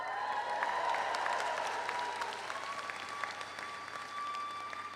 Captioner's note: audience applauds